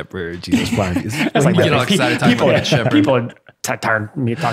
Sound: innocent mumbles

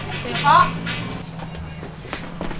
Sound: auntie knocking loudly; it’s a knocking sound

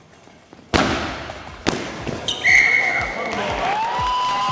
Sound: ball bouncing, score goal, Whistle blowing; crowd cheering

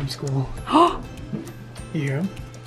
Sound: gasps

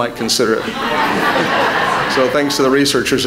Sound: laughter

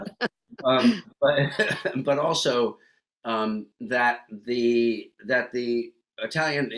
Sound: laughs

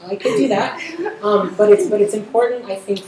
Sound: audience laughter

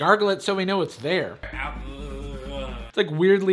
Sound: strange moans

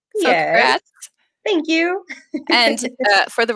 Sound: chuckles

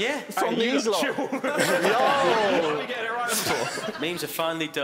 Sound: laughing

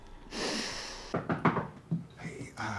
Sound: The Super knocking

